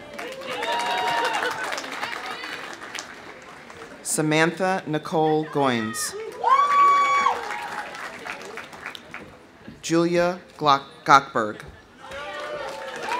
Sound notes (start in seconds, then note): 0.0 audience applauding; 0.0 audience cheering; 5.8 audience cheering; 6.2 audience applauding; 12.0 audience cheering; 12.1 audience applauding